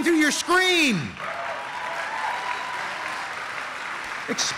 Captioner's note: applause